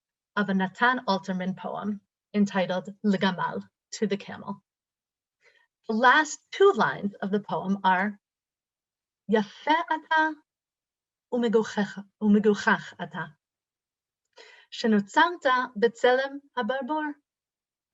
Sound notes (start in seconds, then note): 2.6 Hebrew; 8.3 reading Hebrew